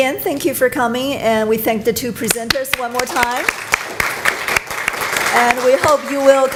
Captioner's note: clapping